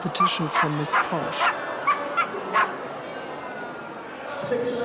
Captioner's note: Posh barks